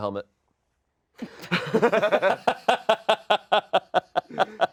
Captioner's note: cast laughs